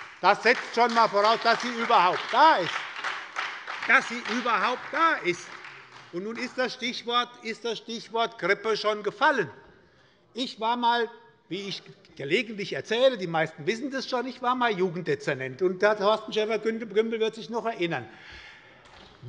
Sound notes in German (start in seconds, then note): 4.1 Beifall bei der SPD